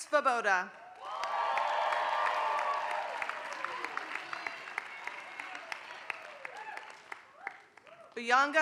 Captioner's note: applause